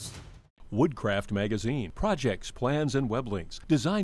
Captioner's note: voiceover